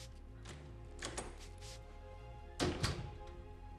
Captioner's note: door opens, closes